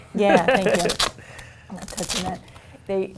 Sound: chuckles

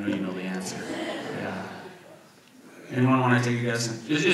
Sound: audience laughs

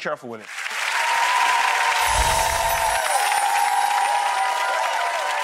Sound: audience clapping and cheering

